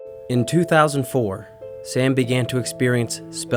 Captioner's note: voiceover